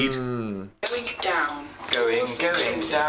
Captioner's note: automated Voice